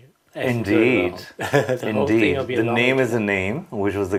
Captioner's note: laughing